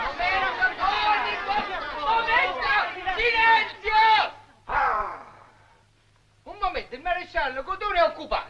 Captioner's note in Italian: grida confuse